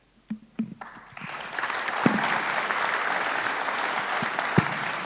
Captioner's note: audience applauding